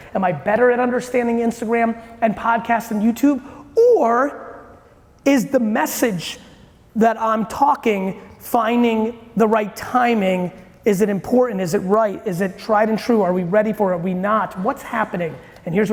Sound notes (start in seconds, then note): none